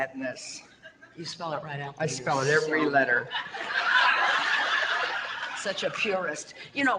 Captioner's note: audience laughter